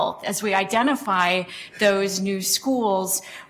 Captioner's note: none